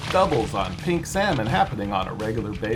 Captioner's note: fish splashing